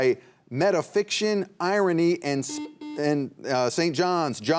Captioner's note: buzzer buzzing